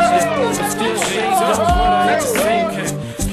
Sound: cheering; crowd

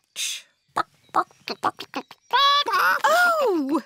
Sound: clucking

